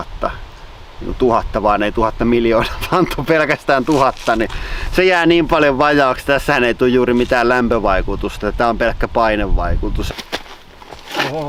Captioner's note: laugh